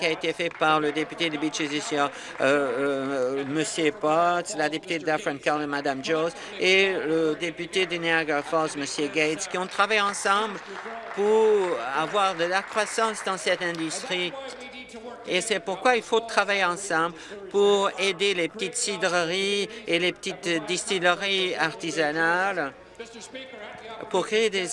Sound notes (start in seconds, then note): 14.8 applause